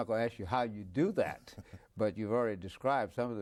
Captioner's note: laughs